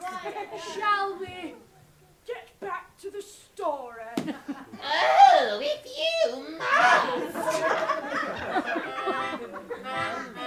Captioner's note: laughter & cheers; mocking